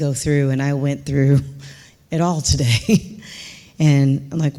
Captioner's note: chuckling